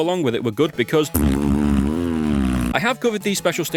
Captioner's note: blows raspberry